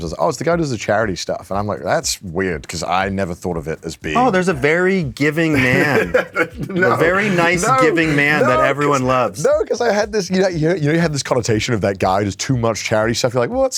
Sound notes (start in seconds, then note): 5.5 laughs